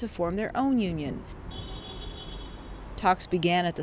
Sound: car honking

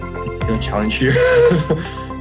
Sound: laughs

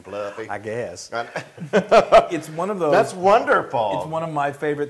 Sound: laugh

